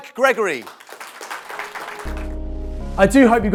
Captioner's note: audience applauding